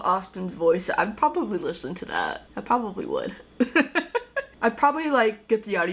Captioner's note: laughs